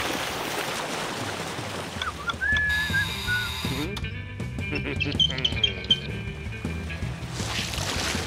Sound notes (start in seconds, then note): 4.6 grunts and giggles